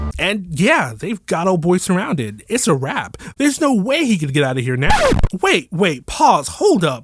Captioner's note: record scratch